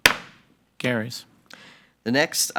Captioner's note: gavel bangs